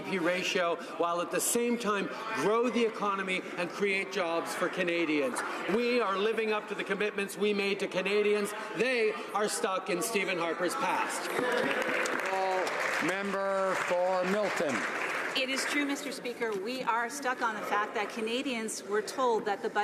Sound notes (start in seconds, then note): 14.7 some Applause